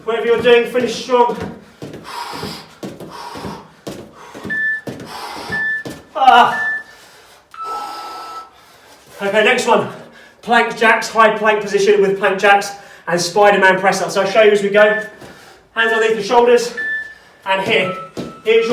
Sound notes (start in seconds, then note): 2.1 exhales sharply; 4.4 beeping